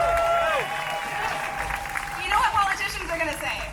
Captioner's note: AUDIENCE: Cheering